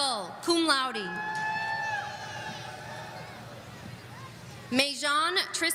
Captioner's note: audience cheering